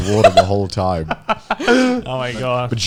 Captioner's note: laughing